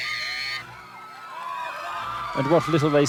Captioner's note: crowd cheers; screams